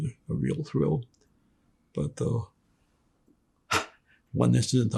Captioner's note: laughing